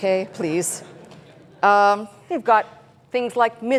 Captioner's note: chuckling